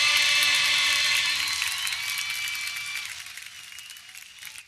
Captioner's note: audience cheering